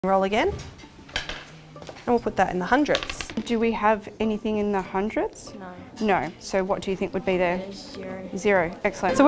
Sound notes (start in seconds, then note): 1.3 dice clattering